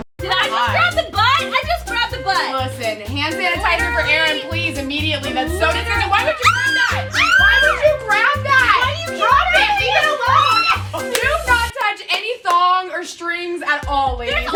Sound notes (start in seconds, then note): 6.3 screams; 8.5 screaming over each other